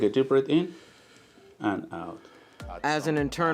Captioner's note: man breathes in